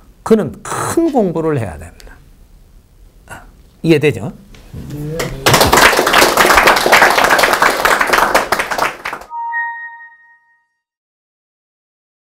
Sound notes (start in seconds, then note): 5.1 audience applauds